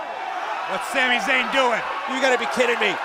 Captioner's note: cheers & applause